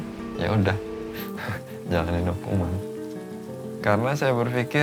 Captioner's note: laughs